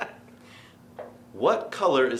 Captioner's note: laughing